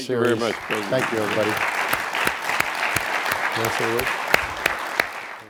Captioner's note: audience applauds